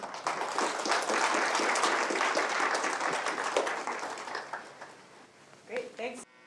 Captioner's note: applause